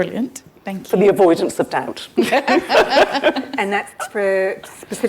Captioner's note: laughs